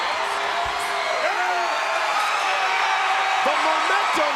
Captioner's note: crowd cheering; Cena screams